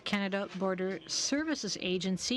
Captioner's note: speaking French